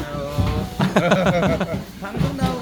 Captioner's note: laughter